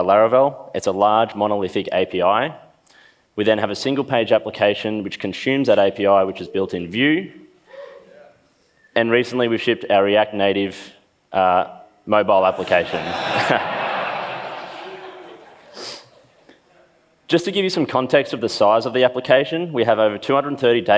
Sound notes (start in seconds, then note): 12.4 laughs